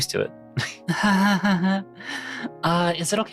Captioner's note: nervous laughter